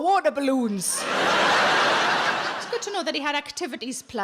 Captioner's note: audience laughs